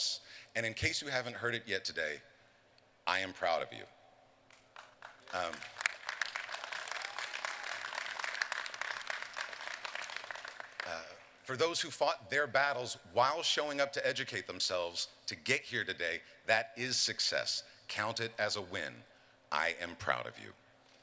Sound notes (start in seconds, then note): 4.5 applause